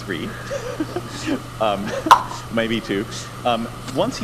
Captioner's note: laughs